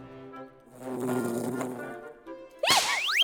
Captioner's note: buzzzzz